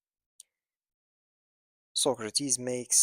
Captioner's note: pause